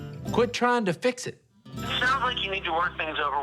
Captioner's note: on phone